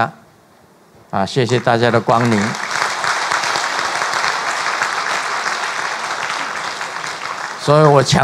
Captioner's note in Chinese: 眾鼓掌